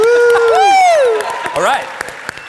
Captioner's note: audience applauding